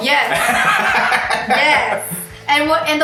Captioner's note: laughs